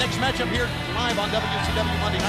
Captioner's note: crowd cheering